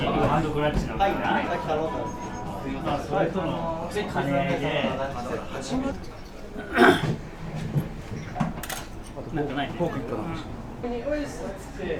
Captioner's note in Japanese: 会話